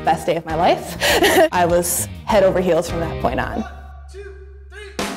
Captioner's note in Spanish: risas